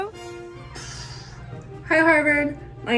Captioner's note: blowing air